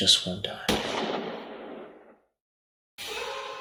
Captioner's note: gunshot